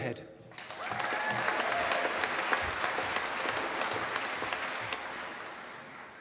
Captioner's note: applause